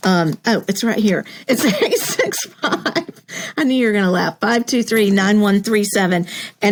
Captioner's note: laugh